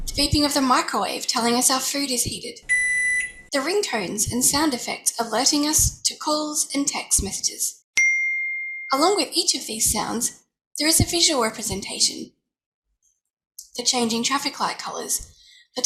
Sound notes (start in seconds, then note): 2.7 high pitched beep; 8.0 high pitch ding